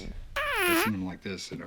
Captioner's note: whoopie cushion sound effect